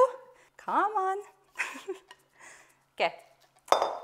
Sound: giggles

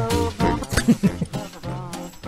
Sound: laffs

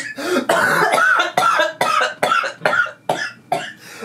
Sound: coughing

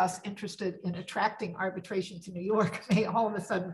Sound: laughs

